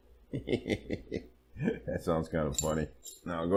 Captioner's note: laughing